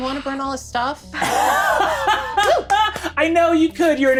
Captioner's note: laughing